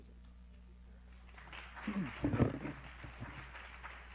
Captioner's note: applause